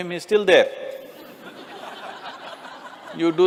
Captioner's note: laughter